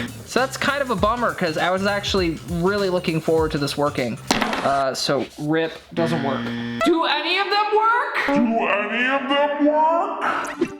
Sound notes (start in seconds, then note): 0.0 buzzer sounding; 4.3 device clattering; 6.0 buzzer sounding; 10.6 playful music